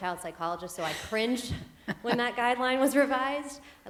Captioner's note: laughter